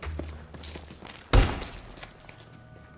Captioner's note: gunshot